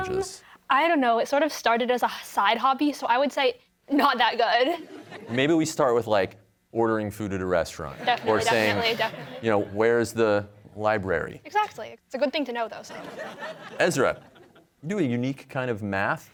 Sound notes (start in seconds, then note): 4.1 chuckles; 12.9 audience laughs